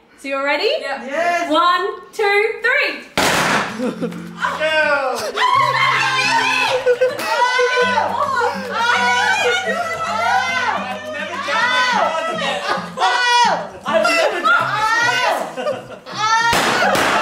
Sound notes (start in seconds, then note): 3.2 popping; 5.3 cheering; 16.5 pop